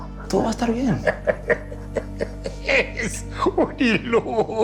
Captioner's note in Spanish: Risas